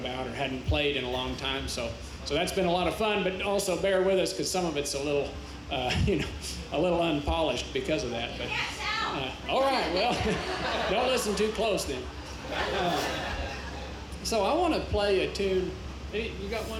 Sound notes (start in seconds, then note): 9.8 chuckles